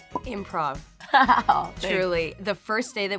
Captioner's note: laughing